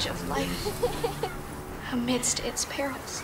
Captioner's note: laughter